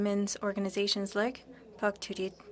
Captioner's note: speaking French